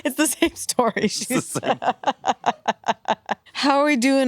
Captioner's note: laughs